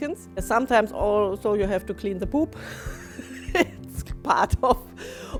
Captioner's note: laughs